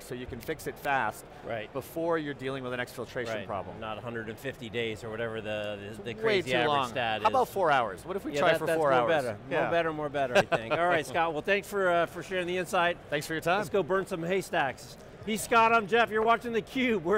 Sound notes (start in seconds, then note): 10.4 laughing